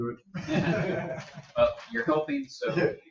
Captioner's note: people chuckle